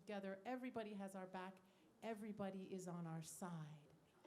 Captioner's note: none